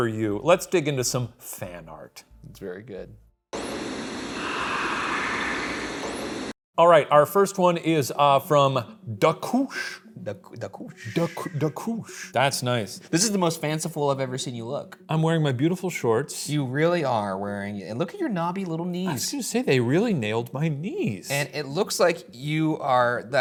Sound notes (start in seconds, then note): 3.4 ghostly whispering; 3.6 static hissing